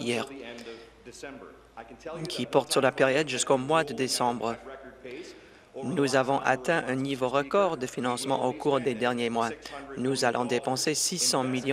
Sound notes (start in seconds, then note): none